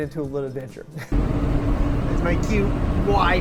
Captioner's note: chuckles